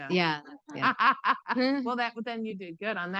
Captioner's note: laughing